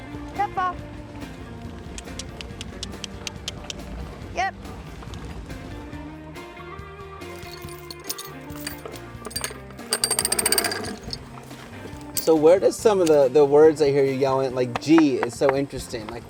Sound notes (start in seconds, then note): 1.9 clicks tongue; 9.9 chains clanking